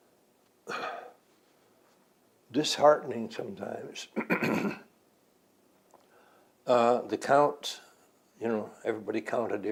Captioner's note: clears throat